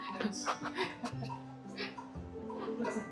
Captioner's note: laughs